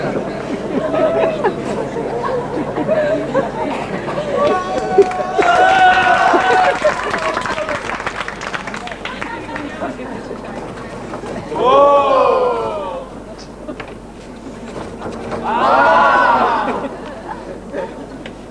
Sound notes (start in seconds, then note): 5.3 επευφημίες